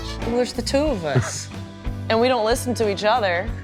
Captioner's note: chuckles